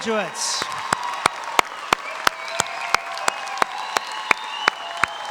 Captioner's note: audience applauding